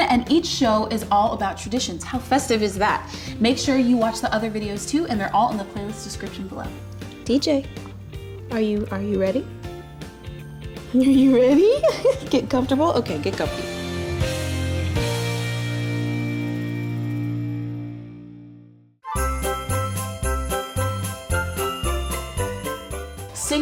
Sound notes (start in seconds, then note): 10.1 christmas music; 11.0 giggles; 14.2 christmas music; 19.0 upbeat Christmas music